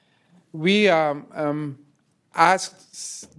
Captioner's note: speaker off mic